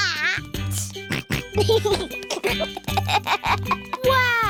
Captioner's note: snorts and giggles